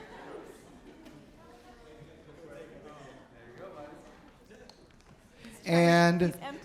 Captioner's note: general chatter